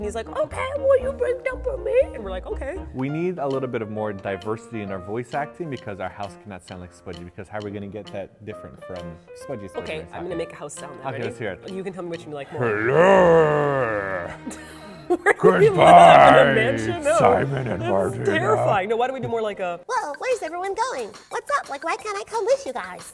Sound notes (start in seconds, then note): 14.3 deep voice; 20.3 high pitched voice